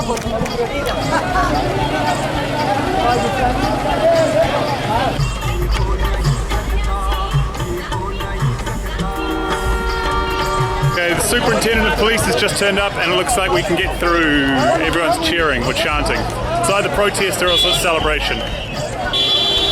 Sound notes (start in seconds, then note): 9.0 car honks